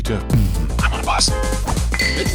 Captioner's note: post-BM sigh; honk